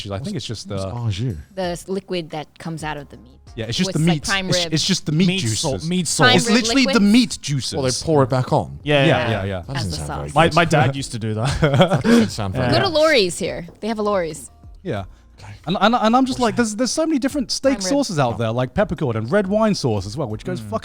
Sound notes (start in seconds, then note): 11.7 laughs